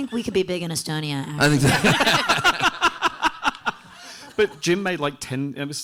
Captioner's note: everyone laughing